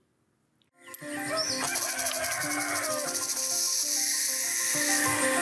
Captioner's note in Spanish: canto de los pájaros